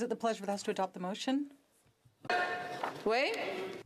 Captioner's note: speaking French